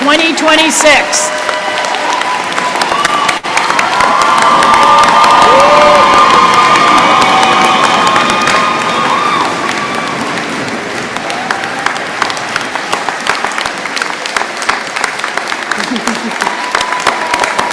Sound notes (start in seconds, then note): 0.0 applause; 1.5 applause and cheering continues, laughter